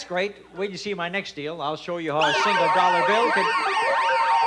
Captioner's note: alarms ringing